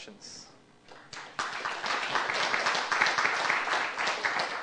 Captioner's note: applause